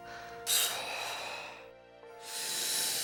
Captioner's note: nervous stammering; exhales sharply; inhales deeply